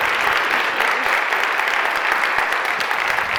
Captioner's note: murmuring